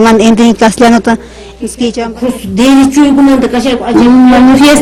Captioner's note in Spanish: she speaks in Quechua